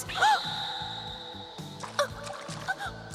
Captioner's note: whimpers